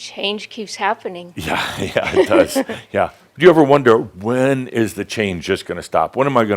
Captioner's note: she chuckles